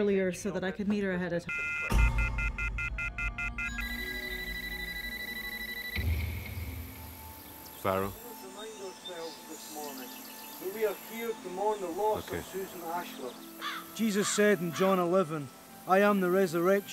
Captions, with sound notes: I promised Veronica that I would head up a little bit earlier so that I could meet her ahead-- (phone beeps rapidly) (phone rings) - Farrow. - Let us remind ourselves this morning that we are here to mourn the loss of Susan Ashler. - Okay.